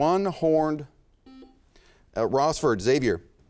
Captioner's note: buzzer chimes